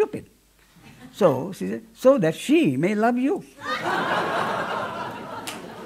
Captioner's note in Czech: smích